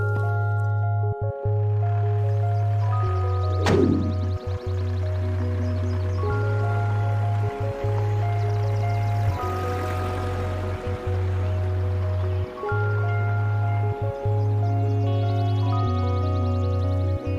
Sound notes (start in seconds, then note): 9.1 engine noise; 12.8 melancholic music